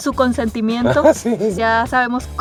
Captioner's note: laughter